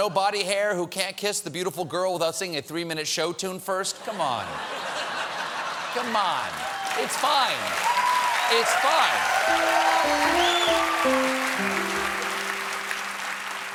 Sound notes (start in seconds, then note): 7.0 cheers and applause